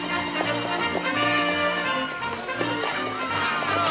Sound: soldiers whooping

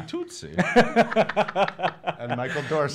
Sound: laughing

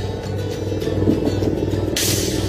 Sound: knock Knock

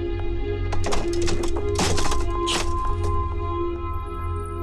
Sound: chair thud

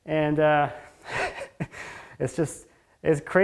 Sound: laughing

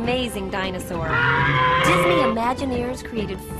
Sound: groaning

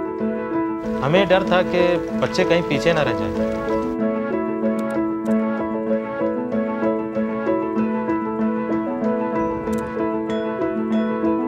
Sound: non-english speech

